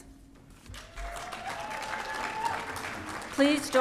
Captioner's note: audience applauding and cheering